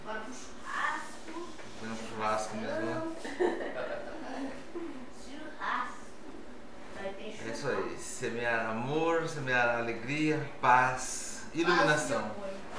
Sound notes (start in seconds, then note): 3.2 laughs